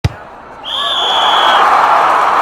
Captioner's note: crowd applauding; whistle blowing